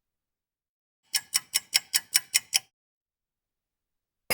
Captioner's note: ticking clock